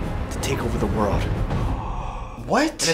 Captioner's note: gasp